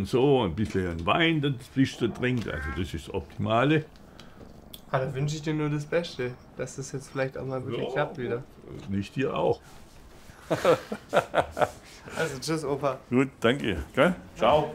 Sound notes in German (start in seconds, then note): 10.3 Lachen